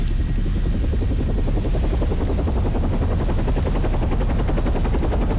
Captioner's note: helicopter whirring